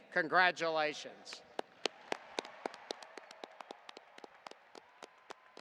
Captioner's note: audience applauding